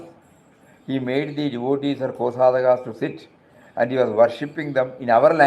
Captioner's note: foreign language